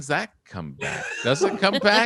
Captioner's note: David laughs; laughs